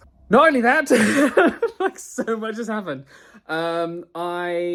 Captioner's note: laughs